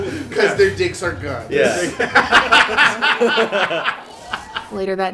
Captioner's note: laughter